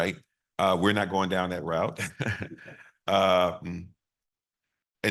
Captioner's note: chuckles